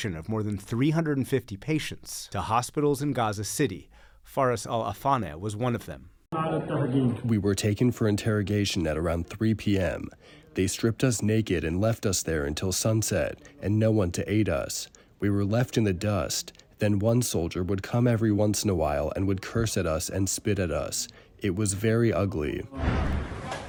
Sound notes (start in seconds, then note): 7.9 through translator